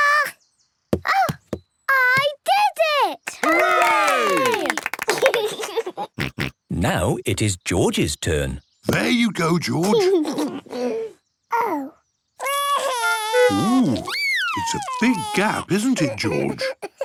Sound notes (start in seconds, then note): 5.8 laughs; 12.4 cries